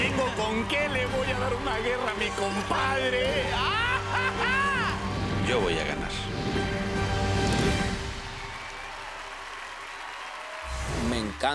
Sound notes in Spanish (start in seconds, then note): 3.7 carcajada; 11.0 aplausos